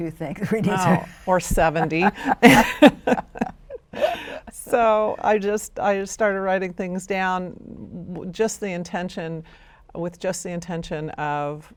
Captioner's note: laughs